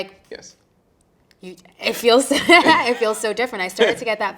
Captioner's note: chuckling